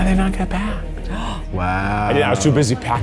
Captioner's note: gasps